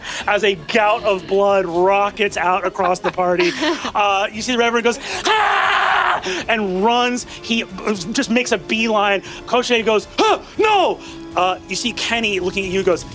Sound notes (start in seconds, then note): 5.1 screaming